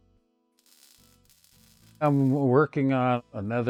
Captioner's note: solder sparks